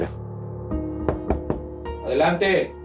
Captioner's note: Toques en la puerta